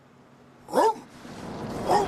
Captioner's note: woof; woof woof